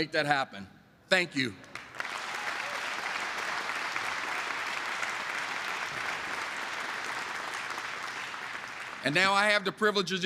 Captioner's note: applause